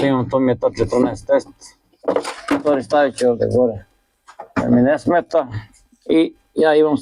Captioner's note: coughs